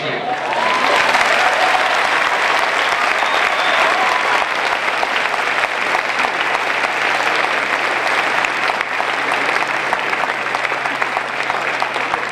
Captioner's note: applause